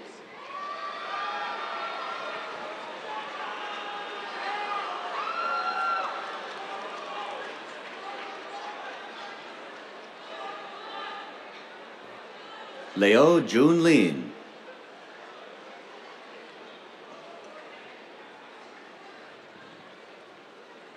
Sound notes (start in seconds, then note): 0.4 cheers, applause; 16.9 scattered applause